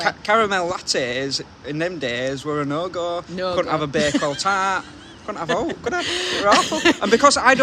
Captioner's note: laughing